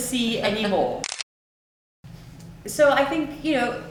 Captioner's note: camera clicks